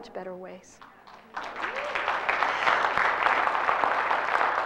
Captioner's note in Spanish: Aplausos